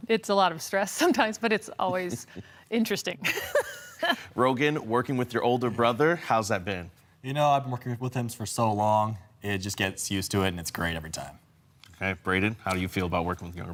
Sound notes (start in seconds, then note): 3.5 laughing